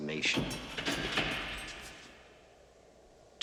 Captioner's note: door opening